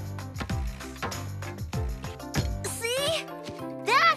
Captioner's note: ball Thumping